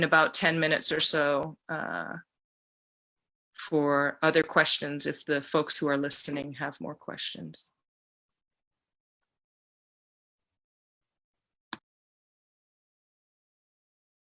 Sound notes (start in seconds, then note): 8.1 a pause